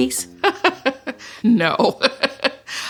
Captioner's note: laughs